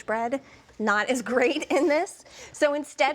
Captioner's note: chuckles